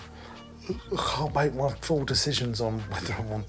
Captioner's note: yawns